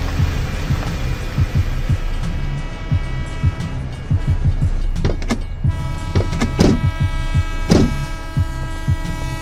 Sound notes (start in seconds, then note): 1.5 dramatic music; 2.4 horn blows